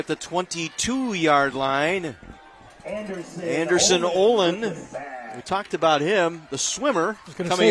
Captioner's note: applause